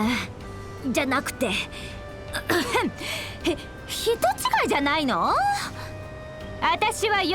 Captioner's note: cough